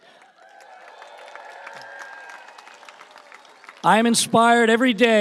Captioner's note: audience applauding and cheering